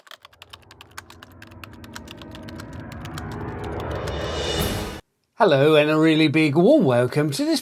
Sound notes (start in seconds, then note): 0.0 typewriter sounds